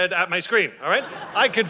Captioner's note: audience laughing